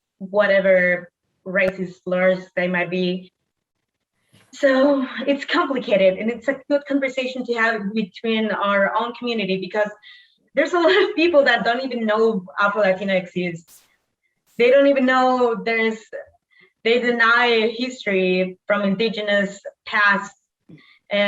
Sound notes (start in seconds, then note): 4.7 sighs